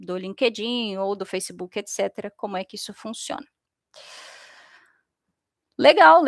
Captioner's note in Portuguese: suspirando